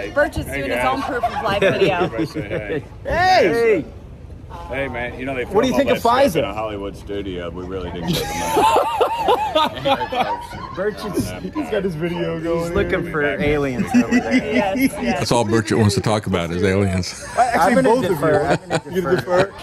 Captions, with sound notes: Birkett's doing his own perfect live video. Hey! Hey, man. What do you think of FISA? This is a Hollywood studio, we really didn't get enough. (Laughing) Birkett's, he's got his video going. I'm looking for aliens over there. That's all Birkett wants to talk about is aliens. Actually, both of you. You're the first.